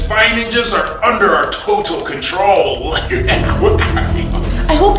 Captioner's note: laughs